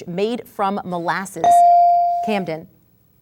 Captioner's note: ding